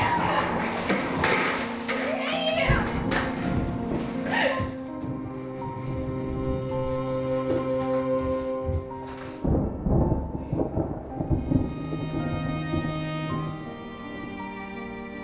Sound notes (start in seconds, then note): 0.0 bowl clattering; 3.4 feet pattering; 4.2 Kim sobs; 5.2 melancholic music continues; 9.2 thunder rumbling